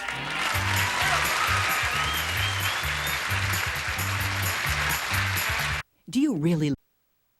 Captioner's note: audience applauding